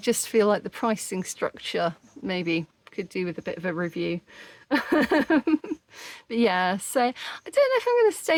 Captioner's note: laughing